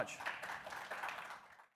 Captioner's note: audience applauds